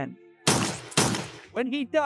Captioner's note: gun shots